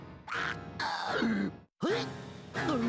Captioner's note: choking